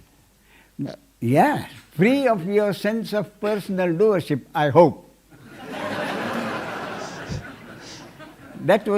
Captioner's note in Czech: smích